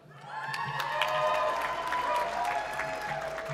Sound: applause

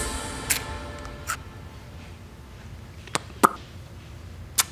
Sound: Cheeto crunches

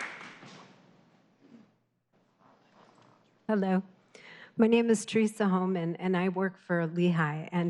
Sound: applause

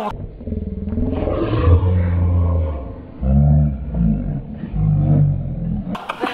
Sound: slow-motion voice distortion

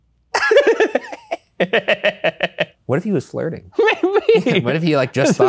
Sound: laughs

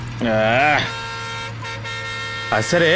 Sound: horn blares

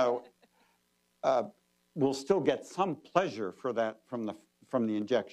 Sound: laughter

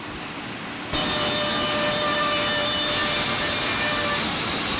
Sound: machine sawing

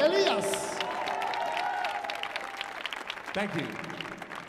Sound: audience applauding

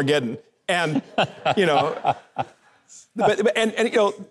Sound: Mike laughing

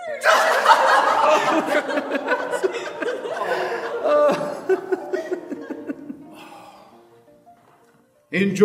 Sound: laughter

